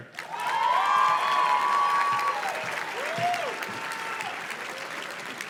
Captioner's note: audience cheers and claps